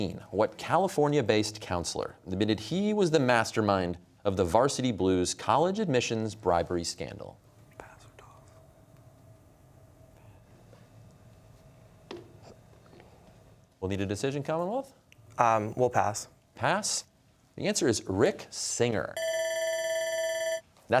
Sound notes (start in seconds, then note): 7.7 whispering; 19.2 bell ringing